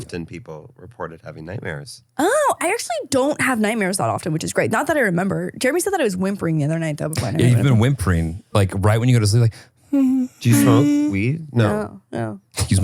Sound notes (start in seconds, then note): 10.0 whimpering